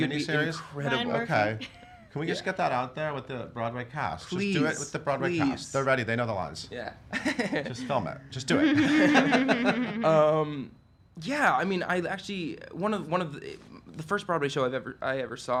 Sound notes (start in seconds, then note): 10.1 all laugh